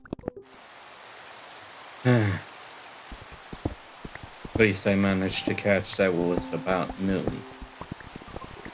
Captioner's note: sigh